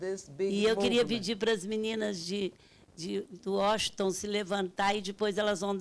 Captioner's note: speaking Portuguese